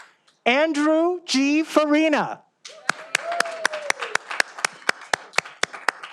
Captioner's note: all applauding